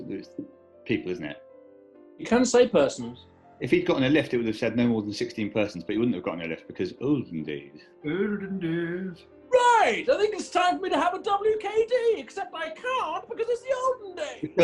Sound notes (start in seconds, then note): 7.1 old, posh voice; 9.2 posh voice